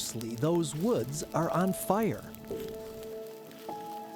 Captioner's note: fire crackles